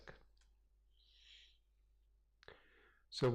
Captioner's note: pause